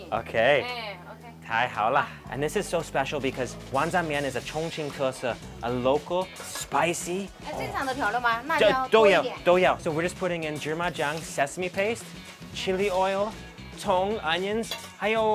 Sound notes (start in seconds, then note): 0.6 speaks in a foreign language; 4.3 speaks in a foreign language; 7.2 woman speaks in a foreign language; 8.5 speaks in a foreign language; 15.1 speaks in a foreign language